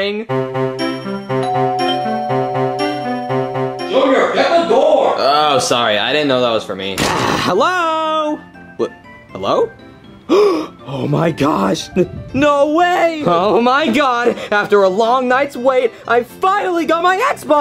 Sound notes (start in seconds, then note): 0.0 joyful music; 1.4 bell dings; 10.2 gasps